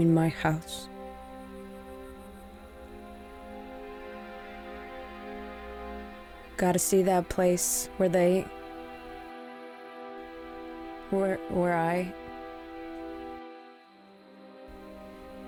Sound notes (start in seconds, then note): none